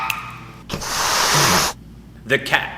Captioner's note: cat hisses